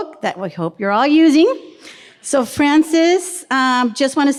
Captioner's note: none